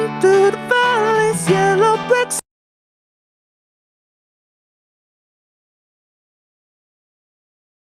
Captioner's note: audio cuts off